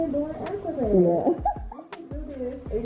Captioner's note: laughs